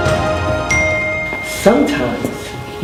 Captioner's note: ding